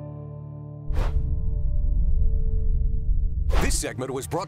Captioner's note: logo whooshing; muffled ethereal music